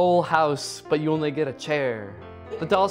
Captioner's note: laughs